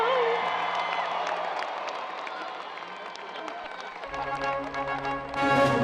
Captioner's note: audience cheers and applause